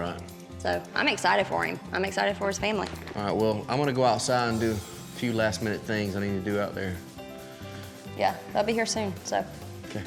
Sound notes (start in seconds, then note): none